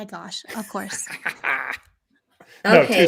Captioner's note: chuckling